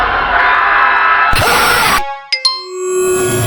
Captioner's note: distorted scream; camera interference; error chime